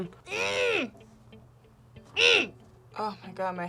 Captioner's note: grunts